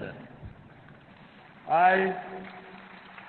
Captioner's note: applause